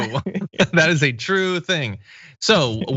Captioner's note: laugh